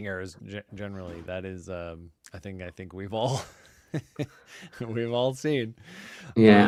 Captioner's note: laughs